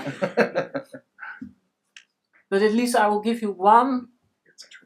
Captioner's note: laughs